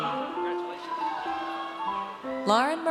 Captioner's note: audience cheers